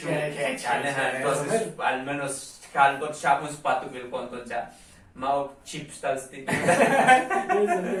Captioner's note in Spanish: risas